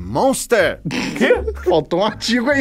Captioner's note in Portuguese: risadas